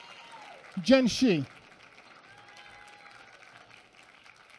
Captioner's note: applause